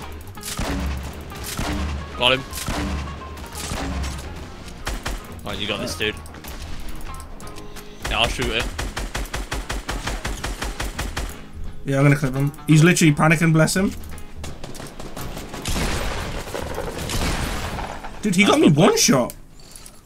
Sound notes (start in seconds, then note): 1.3 rockets fired; 8.0 gun fire; 14.4 gun fire